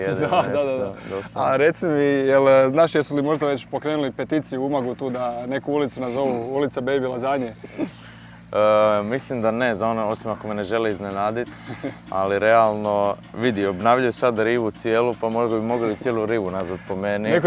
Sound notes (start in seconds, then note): 7.9 baby laughs